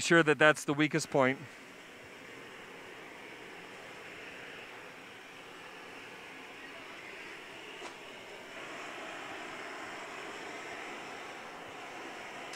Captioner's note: pause; sound of blowtorches